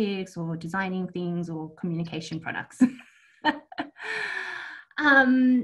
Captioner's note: laughs